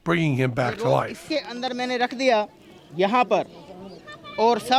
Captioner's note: non-english speech